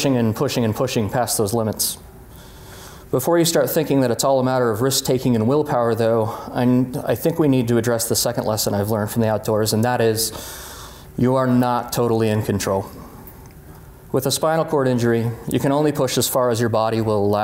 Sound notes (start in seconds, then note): none